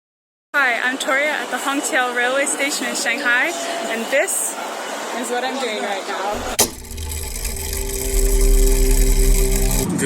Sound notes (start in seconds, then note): 6.3 mechanism whirring